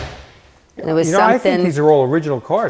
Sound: door thudding

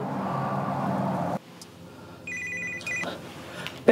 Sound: phone rings

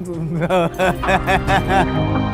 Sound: laughs

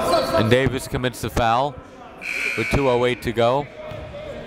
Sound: buzzer dings

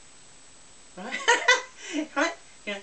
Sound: laughs

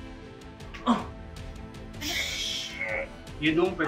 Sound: groaning in pain; whispering

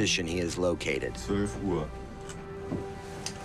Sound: speaking German

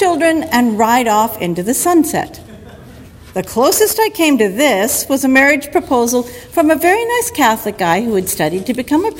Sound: audience laughter

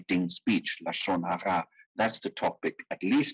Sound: speaking in foreign language

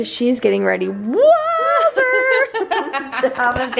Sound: laughs

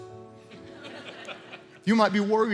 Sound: congregation laughing

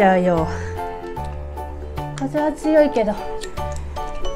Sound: laughs

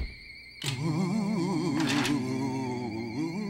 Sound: moaning

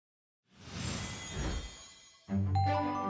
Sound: whooshing

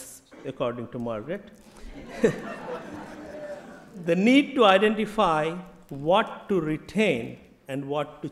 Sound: laughter

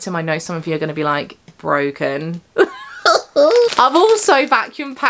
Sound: laughing

